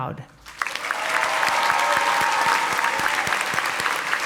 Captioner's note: audience applauding